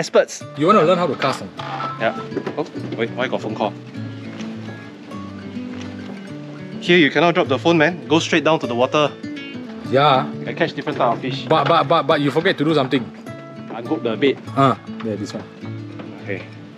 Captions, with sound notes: You want to learn how to cast? *Phone rings* Wait why is there a phone call. You cannot drop the phone, man. Go straight down to the water. Yeah! I'll catch different types of fish. But you forgot to do something. Unhook the bait. This one. Okay.